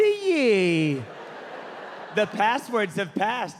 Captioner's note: audience laughing